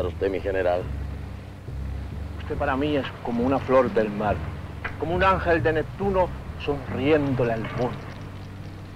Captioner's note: General Tostada speaking in Spanish